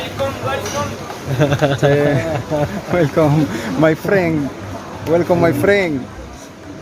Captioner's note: laughs